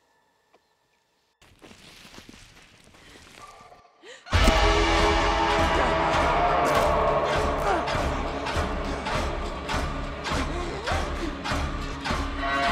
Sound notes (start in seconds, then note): 4.0 Brigit gasps; 4.3 tense dramatic music; 8.2 Brigit choking